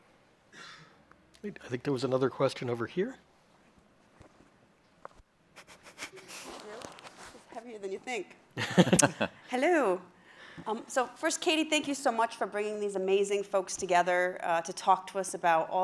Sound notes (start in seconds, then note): 8.6 chuckles